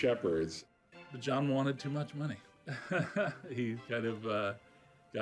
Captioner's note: laughing